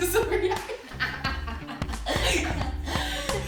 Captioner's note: laughter